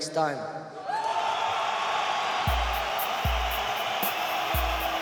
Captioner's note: people cheering